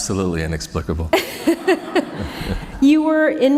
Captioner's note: laughter